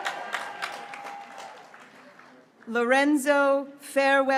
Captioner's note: graduates cheering